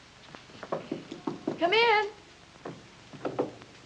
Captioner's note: Knocking